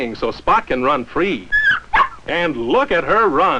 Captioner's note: excited whining and barking